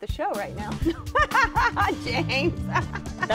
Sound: laughs

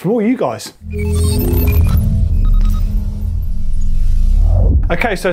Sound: electronic beeping

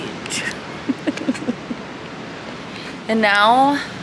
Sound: laughs

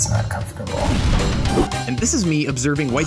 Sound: fire blazing

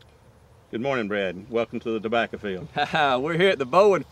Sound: laughter

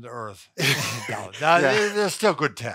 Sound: chuckles

